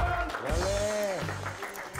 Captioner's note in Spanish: aplausos